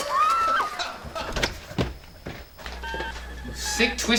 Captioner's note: crockery breaking; screaming; laughing